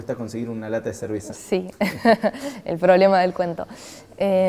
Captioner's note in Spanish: risas